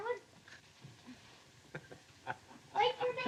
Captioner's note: chuckles